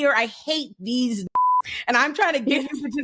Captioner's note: beep